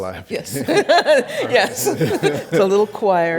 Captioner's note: laughs